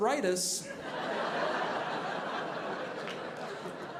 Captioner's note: audience laughing